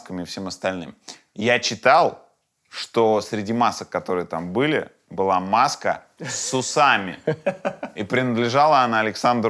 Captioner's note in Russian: смеётся